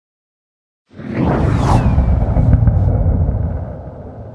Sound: whoosh

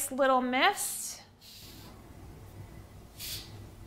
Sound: spraying

